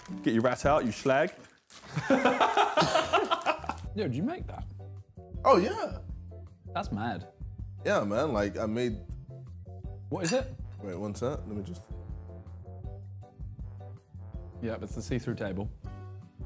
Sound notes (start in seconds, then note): 2.0 laughing